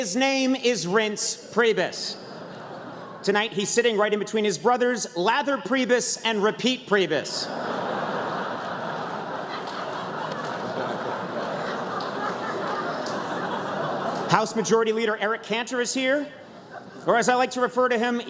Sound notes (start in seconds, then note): 11.0 laughter